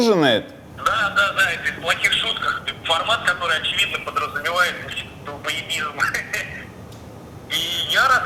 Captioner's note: laughs